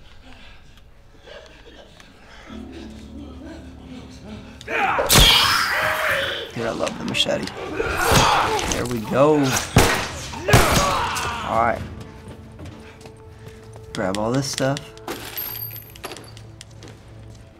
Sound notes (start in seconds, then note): 3.1 Joel grunts; 4.6 Runner shrieks; 9.6 gun fire; 9.6 Joel grunts; 15.0 objects rattle